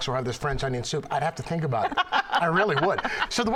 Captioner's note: laughter